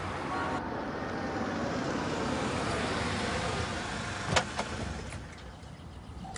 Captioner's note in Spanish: Ruido del auto